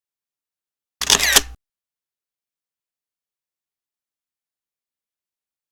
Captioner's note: camera lens snapping